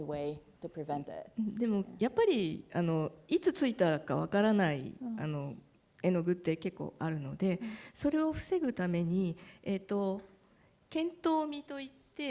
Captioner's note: speaking japanese